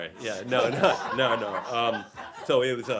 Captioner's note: laughter